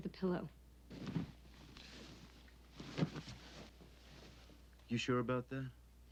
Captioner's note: pillows rustling